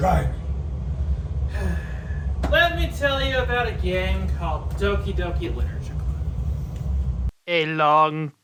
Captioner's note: sigh